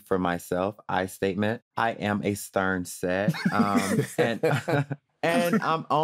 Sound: laughter

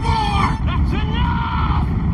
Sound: squawking noise

